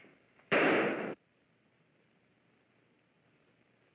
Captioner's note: gun fires